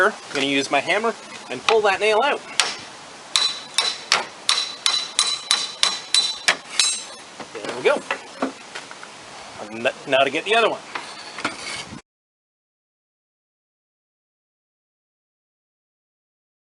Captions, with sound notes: I'm going to use my hammer and pull that nail out. (hammering sounds) There we go. Now to get the other one.